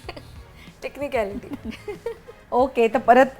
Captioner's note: chuckles